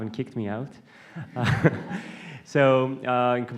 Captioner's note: laughter